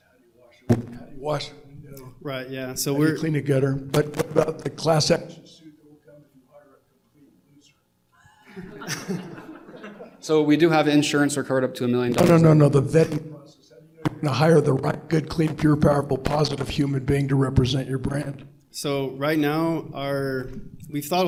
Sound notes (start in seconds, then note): 8.2 laughter